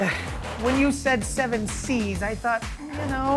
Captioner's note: laughing